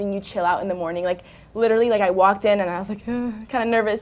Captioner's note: shudders